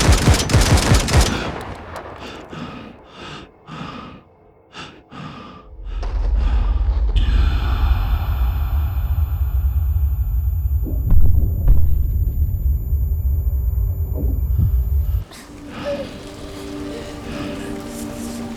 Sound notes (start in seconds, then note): 3.6 gasping; 8.7 ringing; 15.1 whimpering and choking